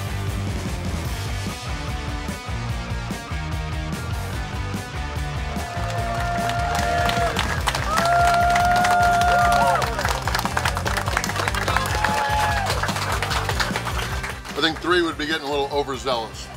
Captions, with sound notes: [Cheering & Clapping] I think 3 would be getting a little overzealous.